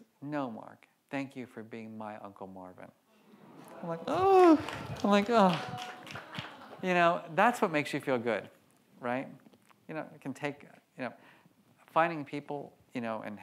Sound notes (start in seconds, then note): 3.2 audience coos